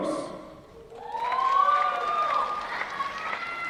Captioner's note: applause